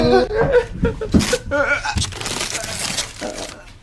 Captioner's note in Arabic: ضحك